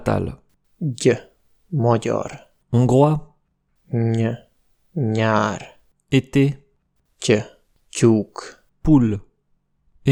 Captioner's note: Hungarian